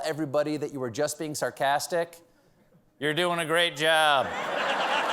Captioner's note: sarcastic